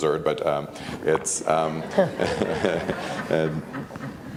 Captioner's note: laughs